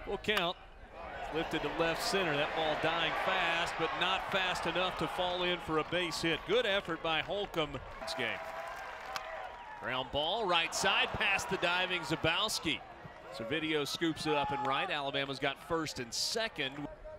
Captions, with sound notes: Full count, lifted to left center. That ball dying fast, but not fast enough to fall in for a base hit. Good effort by Holcombe... [crack of bat] Ground ball, right side, past the diving Zabowski. Servideo scoops it up in right, Alabama's got first and second...